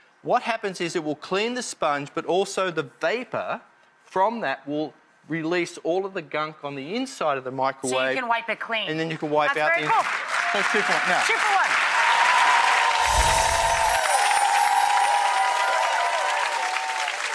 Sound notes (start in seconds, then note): 10.2 clapping and cheering; 13.0 chimes ring